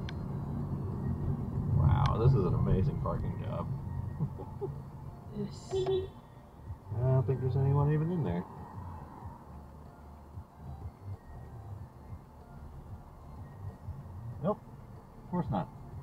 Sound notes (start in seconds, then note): 5.5 beepbeep